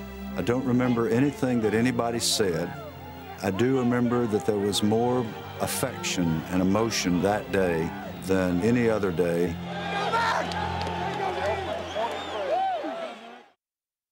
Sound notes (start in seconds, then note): 10.1 shouting